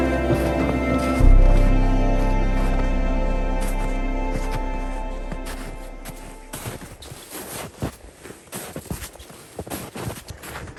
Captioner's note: sounds of footsteps in slushy snow